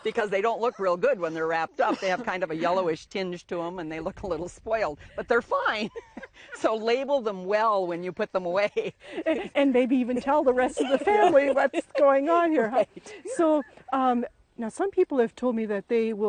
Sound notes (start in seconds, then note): 5.8 laughing